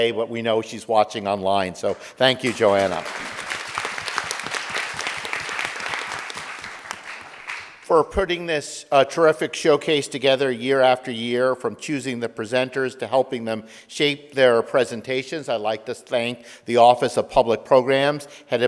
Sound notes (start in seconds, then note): 1.8 audience applauding